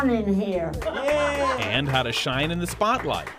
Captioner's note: audience claps